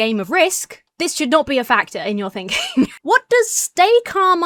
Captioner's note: chuckles